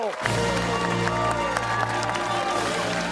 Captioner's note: cheers and applause